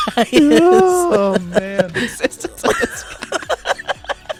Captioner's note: laughs